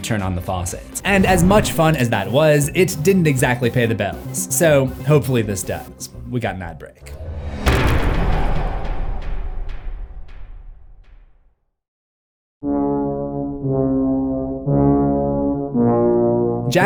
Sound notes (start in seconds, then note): 7.2 impact